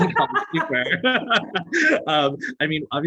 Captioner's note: laughter